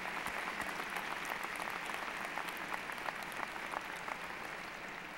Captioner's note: applause